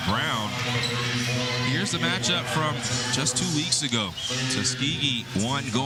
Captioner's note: whistle